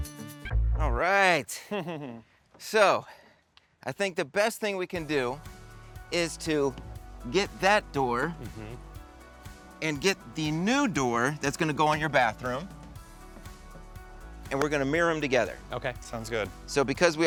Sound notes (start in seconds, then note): 1.5 chuckles